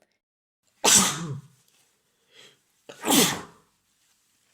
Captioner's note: double sneeze